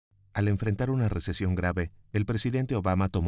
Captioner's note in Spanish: Voz en off